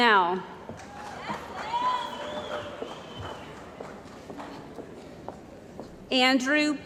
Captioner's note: cheering & Applause